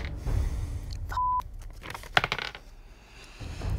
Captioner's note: beep